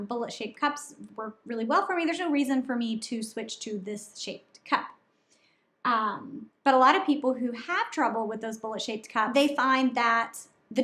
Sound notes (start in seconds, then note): none